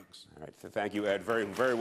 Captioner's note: applause